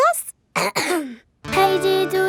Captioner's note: clears throat